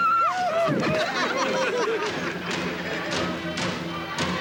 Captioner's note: laughter